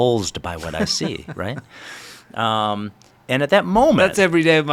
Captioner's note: laughs